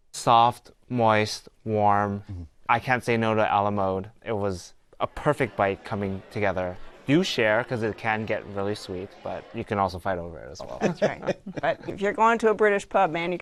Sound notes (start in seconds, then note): 10.6 laughs